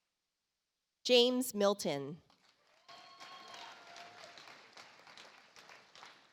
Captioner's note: audience applauds